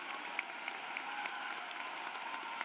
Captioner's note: applause